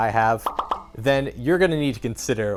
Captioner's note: pops